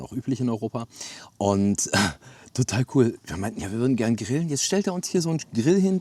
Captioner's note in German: räuspern